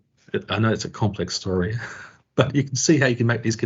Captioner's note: chuckling